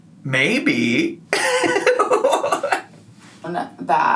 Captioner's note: giggling